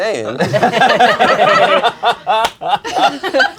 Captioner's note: crowd laughing